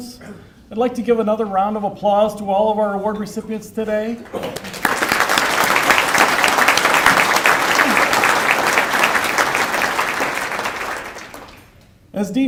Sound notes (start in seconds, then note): 4.3 applause